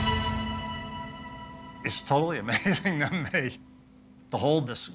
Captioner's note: laughing